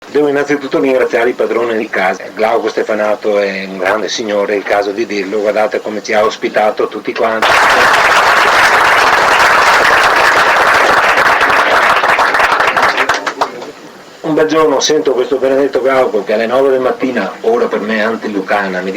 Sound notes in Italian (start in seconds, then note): 12.9 Applauso